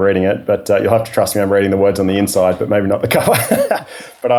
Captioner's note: laughing